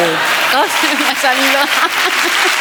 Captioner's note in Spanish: risas